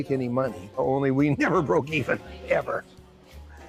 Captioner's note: chuckles